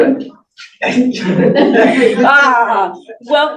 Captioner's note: attendees laughing